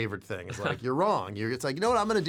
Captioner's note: laughs